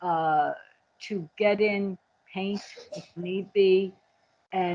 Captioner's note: background coughing